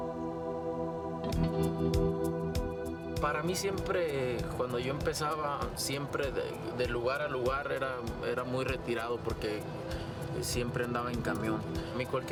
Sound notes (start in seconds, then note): 3.3 speaking Spanish